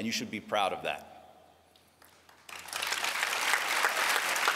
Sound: applause

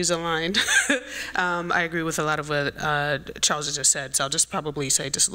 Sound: laughs

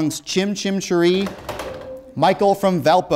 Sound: beeping

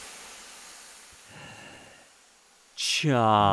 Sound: breaths in

